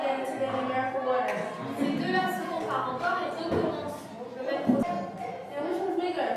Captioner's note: speaks softly